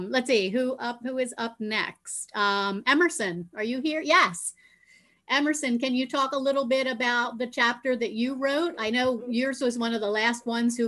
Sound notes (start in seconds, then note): none